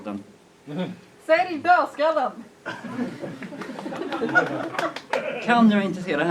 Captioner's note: laughter